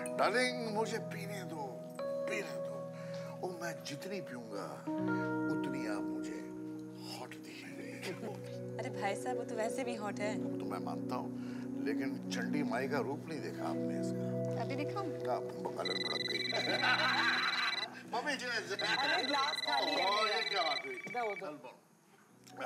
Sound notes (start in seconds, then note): 15.8 Cell phone ringing; 16.3 Laughing